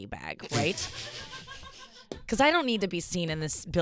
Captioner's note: laughing